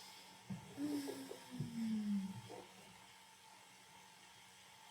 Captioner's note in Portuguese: suspiro longo